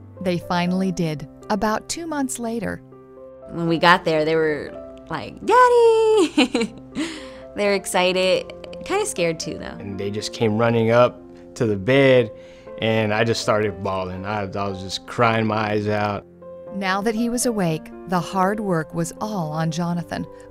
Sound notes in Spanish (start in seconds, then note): 6.2 risas